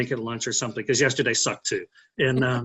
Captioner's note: laughing